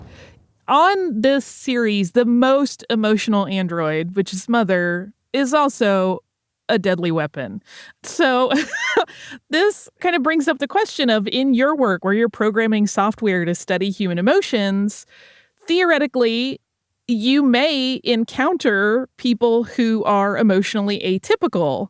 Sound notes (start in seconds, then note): 8.5 chuckles